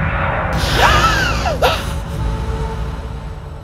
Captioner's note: gasping